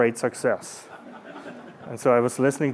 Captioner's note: laughter